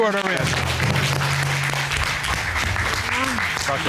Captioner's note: cheers and applause